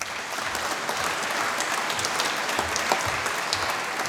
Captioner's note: applause